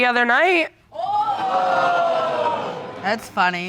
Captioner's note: audience exclaims